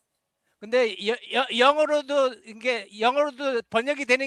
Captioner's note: non-english speech